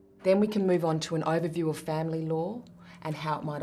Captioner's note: none